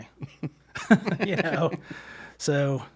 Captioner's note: laughing